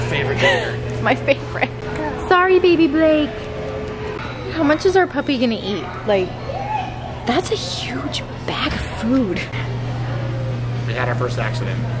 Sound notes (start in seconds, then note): 0.2 chuckles